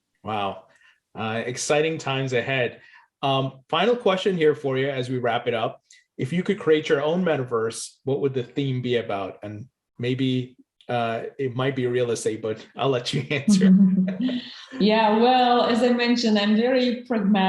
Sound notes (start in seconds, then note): 13.1 both laughing